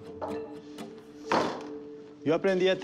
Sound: speaking spanish

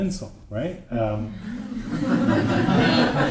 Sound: laughter

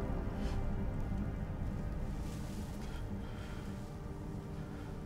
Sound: Oscar sobbing lightly

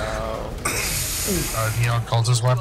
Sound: chuckles; clears nose

